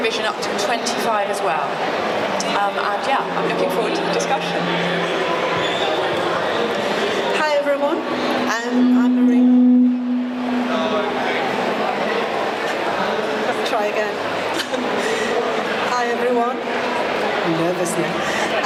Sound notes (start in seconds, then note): 10.6 mic feedback